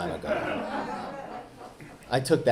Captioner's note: audience laughing